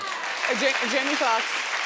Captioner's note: audience applauding